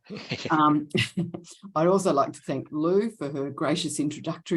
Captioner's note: chuckles